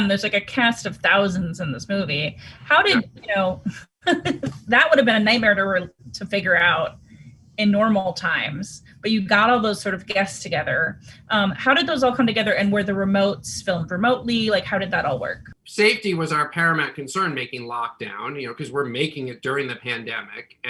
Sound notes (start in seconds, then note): 2.5 laughs